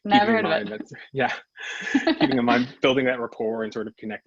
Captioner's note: laughs